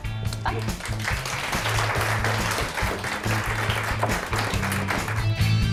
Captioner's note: applause